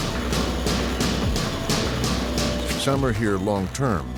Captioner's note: banging